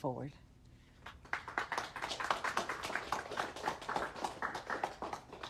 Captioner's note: audience applauding